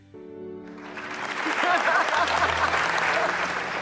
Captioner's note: audience clapping; laughing